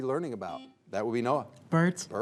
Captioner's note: buzzer beeps